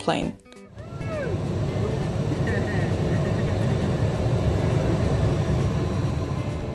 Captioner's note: air whooshing